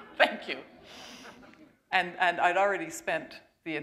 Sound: chuckle

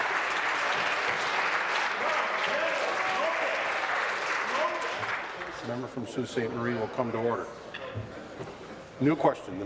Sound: applause

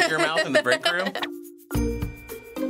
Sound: laughs

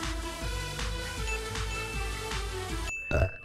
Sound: electronic music; bells ringing; belches

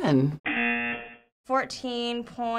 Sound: buzzer rings

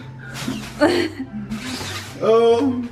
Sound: laughs

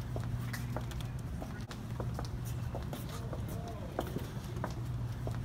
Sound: footsteps

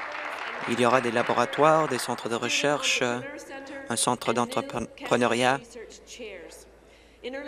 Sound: applause

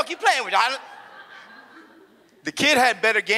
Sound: audience laughs

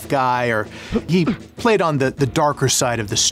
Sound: grunts

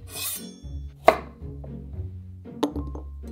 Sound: knife chopping

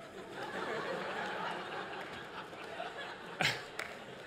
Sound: laughter

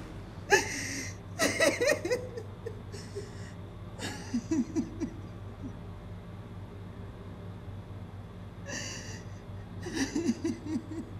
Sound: crying sound

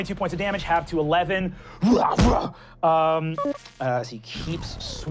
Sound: grunting

